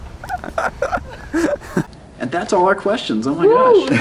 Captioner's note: laughter